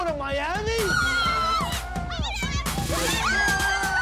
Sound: cheers

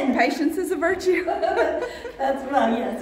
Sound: laughing

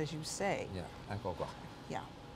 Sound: italian

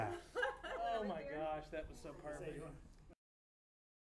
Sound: laughter

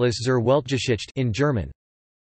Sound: in German

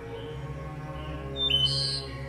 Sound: birds singing

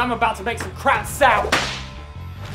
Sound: whip

